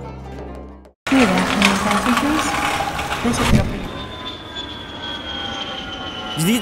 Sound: airport noise

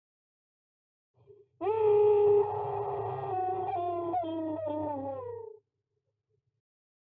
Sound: sound of scream

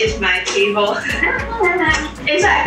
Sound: laughs

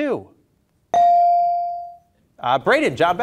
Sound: beep

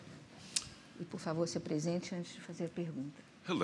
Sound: speaking portuguese

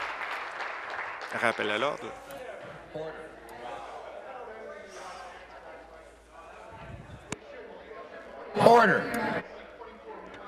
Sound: applause

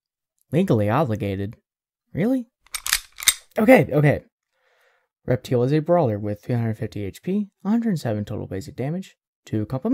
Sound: gun cocks

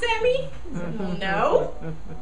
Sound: audience laughing

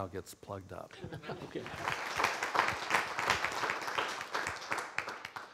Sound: applause

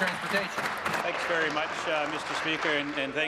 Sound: applause

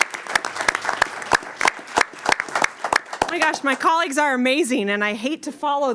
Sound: applause

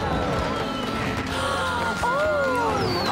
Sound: gasp

